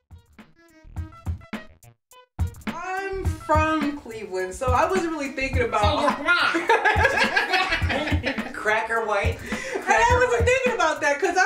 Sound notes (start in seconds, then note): 0.3 funky hip hop music; 5.7 laughs